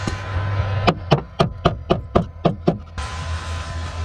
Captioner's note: hammering